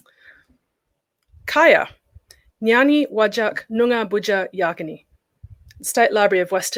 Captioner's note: speaks noongar